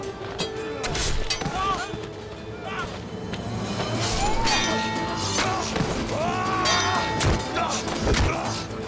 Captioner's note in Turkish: Dövüş sesleri